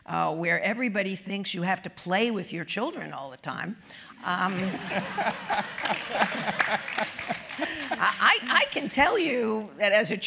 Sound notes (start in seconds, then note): 4.5 laugh; 4.7 applause